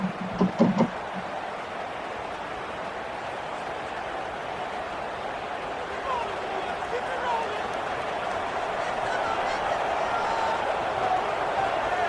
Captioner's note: crowd cheering